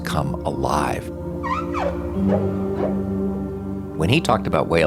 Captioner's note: whale calling